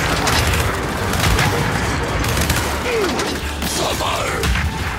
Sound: gunfire

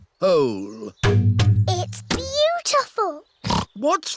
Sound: oinks

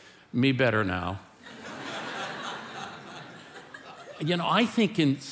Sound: congregation laughing

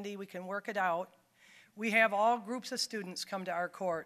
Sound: none

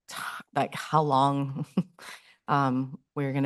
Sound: chuckles

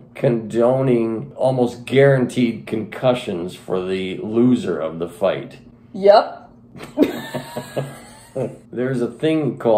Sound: both laughing

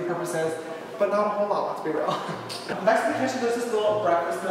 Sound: giggles

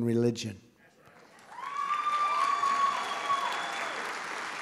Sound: applause

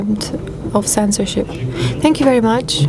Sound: speaking foreign language

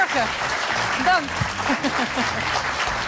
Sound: applause

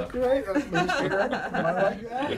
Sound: laughter

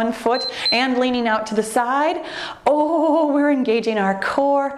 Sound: timer beeps

